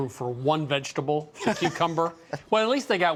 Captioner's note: laughs